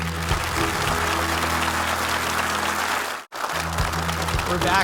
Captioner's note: audience applauding; upbeat music